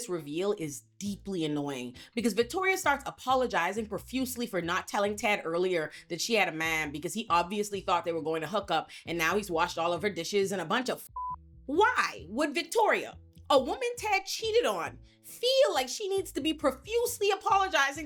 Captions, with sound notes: reveal is deeply annoying because Victoria starts apologizing profusely for not telling Ted earlier that she had a man because he obviously thought they were going to hook up and now he's washed all of her dishes and a bunch of (beep) Why would Victoria, a woman Ted cheated on, feel like she needs to be profusely apologizing